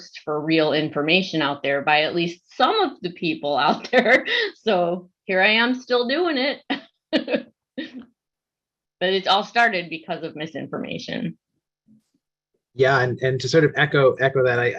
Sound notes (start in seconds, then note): 7.8 laughs